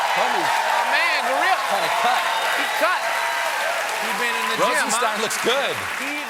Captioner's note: cheers and applause